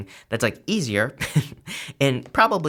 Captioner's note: chuckles